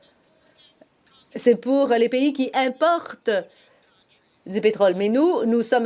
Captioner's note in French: voix de l'interprète